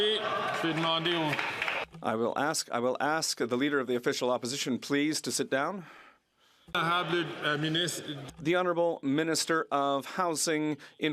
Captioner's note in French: voix de l'interprète